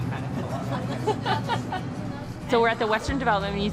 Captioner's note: laughing